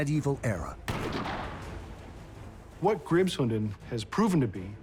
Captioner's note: fires